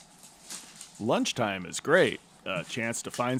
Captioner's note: fire crackling